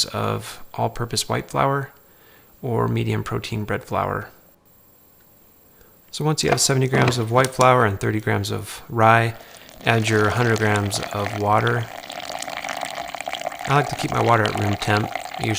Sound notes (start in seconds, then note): 12.1 water pours